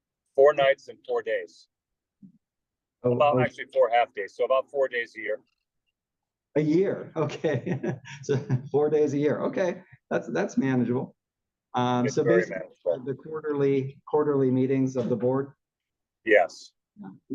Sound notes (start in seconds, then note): 7.6 laugh